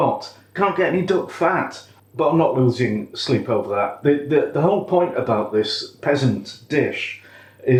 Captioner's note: none